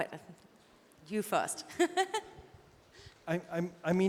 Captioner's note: laughs